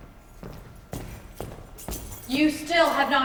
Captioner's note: footsteps entering with keys jingling